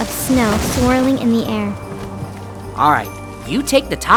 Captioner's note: tree thudding